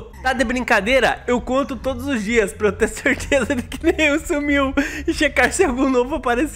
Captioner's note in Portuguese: risos